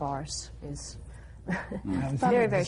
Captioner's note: laughs